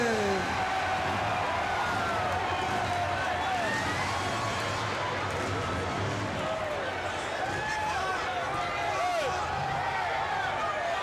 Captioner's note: crowd cheering